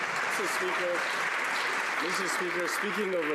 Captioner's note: some Applause